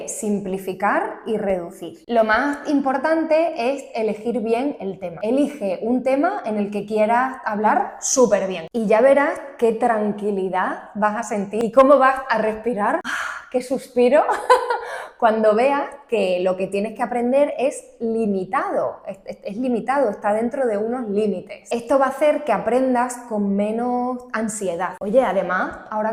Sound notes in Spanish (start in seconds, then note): 12.9 suspiro; 14.2 risas